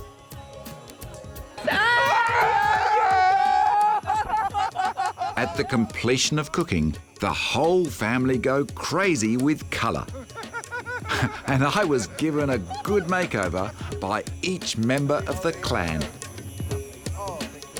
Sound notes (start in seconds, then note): 1.6 yelling and laughter; 9.7 chuckles